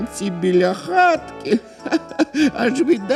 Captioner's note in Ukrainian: сміх